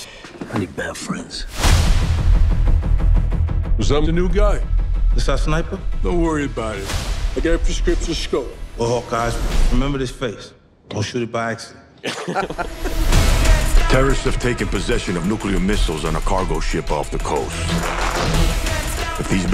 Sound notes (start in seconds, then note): 1.5 logo crashes; 2.2 mysterious music; 12.0 both laugh